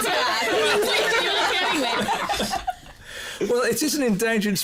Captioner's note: chatter, laughter